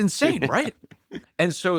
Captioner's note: laughs